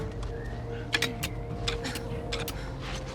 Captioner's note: ice pick scraping